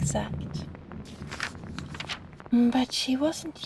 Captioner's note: page turn